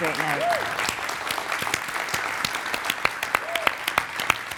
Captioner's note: audience cheering